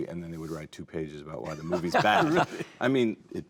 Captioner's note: laughing